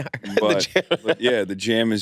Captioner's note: laughs